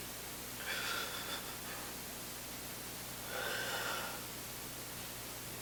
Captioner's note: sobbing; exhaling